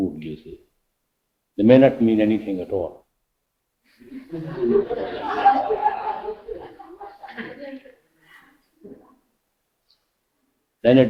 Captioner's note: laughter